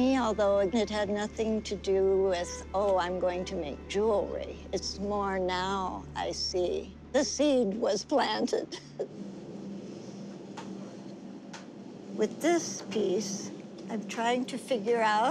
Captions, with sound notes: ALTHOUGH IT HAD NOTHING TO DO WITH, OH, I'M GOING TO MAKE JEWELRY. IT'S MORE NOW I SEE, THE SEED WAS PLANTED. [LAUGHS] WITH THIS PIECE, I'M TRYING TO FIGURE OUT